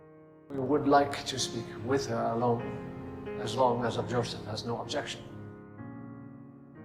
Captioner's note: voiceover